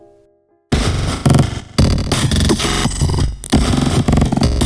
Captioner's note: digital sounds